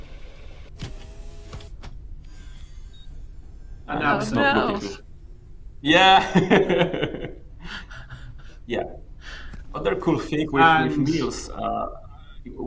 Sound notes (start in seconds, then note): 0.3 whizz; 1.8 chimes; 6.0 laughs